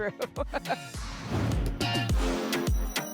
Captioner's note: laughs; whoosh